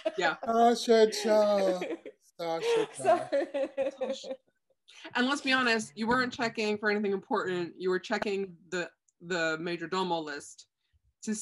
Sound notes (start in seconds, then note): 3.4 laughing